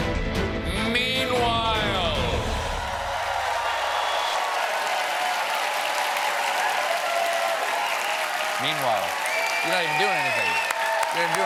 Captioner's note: cheers and applause